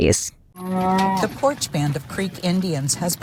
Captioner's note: cow moos